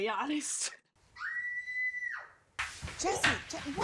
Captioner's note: shrieking